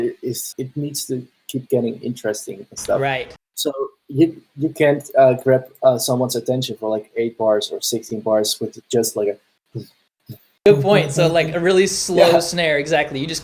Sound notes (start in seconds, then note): 9.7 beatboxing